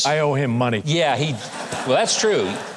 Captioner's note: audience laughing